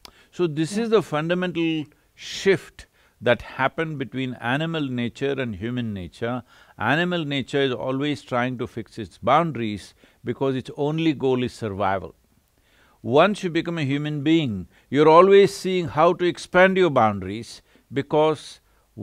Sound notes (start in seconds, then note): none